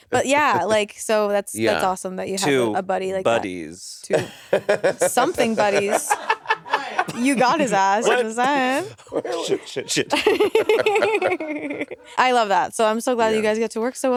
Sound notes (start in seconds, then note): 0.7 Monét laughing; 4.1 Monét laughing; 6.3 crew and Monét laughing; 10.5 all laughing